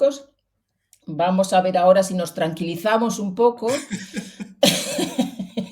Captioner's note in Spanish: risas